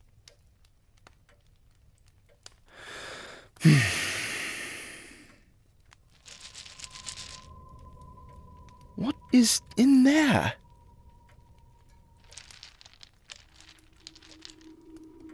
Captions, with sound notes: *deep breath* What is in there?!